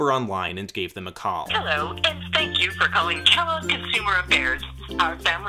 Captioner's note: answering machine